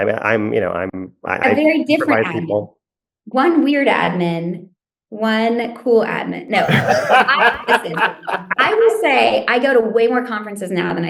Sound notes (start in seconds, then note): 6.5 laugh